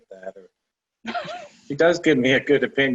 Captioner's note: laughter